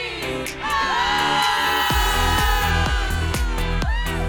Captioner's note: crowd cheering